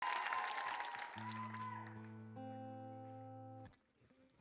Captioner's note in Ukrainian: оплески